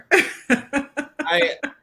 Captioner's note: laughs